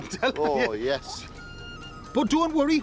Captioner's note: chuckles